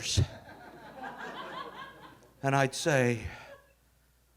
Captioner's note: audience laughing